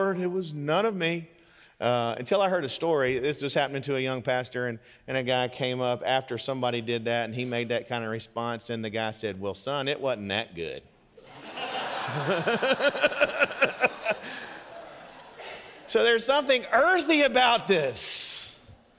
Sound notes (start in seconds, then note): 11.2 congregation laughing; 13.0 laughs